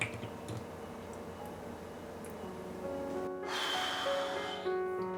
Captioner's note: flan squelching; sighs